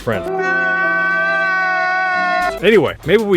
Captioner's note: lets out cry